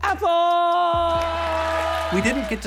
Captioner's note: clapping